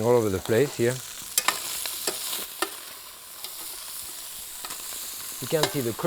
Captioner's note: pan sizzling continues